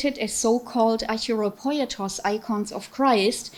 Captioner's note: speaking foreign language